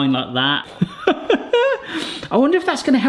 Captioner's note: person laughing